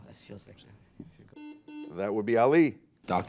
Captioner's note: buzzer